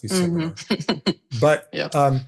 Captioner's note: chuckling